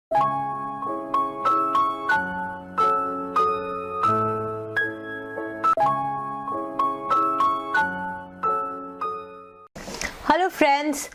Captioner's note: Hindi